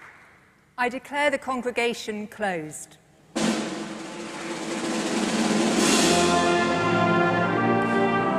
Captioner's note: applause